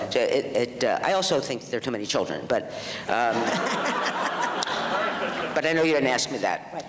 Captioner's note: audience laughs